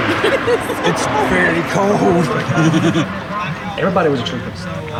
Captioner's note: chuckling